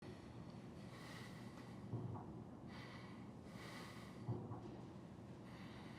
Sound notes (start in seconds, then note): 2.6 man breathes heavily